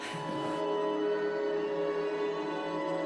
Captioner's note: spherical sounds